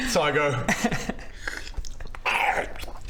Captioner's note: slurp